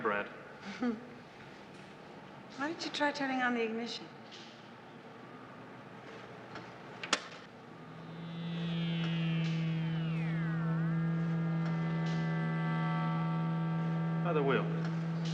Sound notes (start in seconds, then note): 0.6 chuckles; 6.6 clicks; 7.9 engine humming